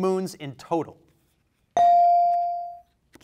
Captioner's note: bell rings